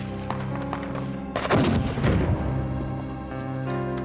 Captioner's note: gunshots; explosion